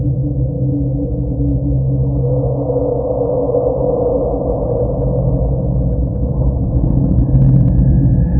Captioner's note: eerie hollow sound